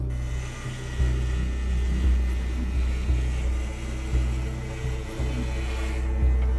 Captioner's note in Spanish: Zumbido al tatuarse; Ruido de la rasuradora